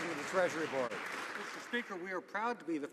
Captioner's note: some Applause